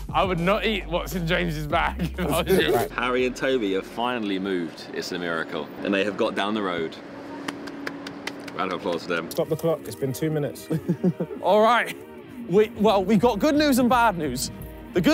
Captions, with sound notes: - I would not eat what's in James's bag. - Harry and Tobi have finally moved. It's a miracle. And they have got down the road. [clapping] Round of applause for them. - Stop the clock, it's been two minutes. [laughing] - All right, we, well, we got good news and bad news.